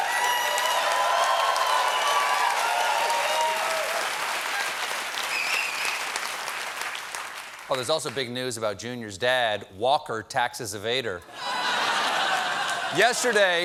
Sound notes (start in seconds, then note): 0.0 cheers and applause